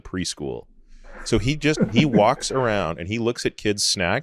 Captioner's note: companion laughing